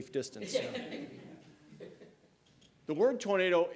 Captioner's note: laughter